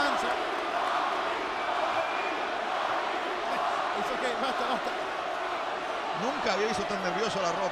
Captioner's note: applause; laugh